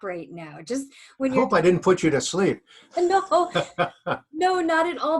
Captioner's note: laughs